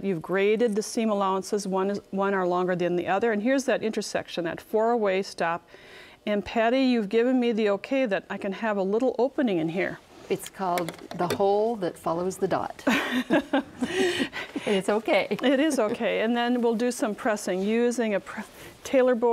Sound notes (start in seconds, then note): 12.8 both laugh